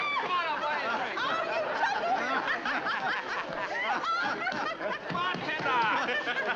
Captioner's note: excited chatter; pounding on bar